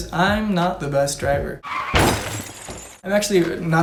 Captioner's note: screeching tires and crash